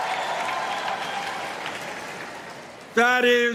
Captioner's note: applause